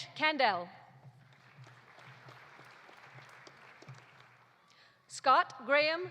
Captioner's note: audience applauding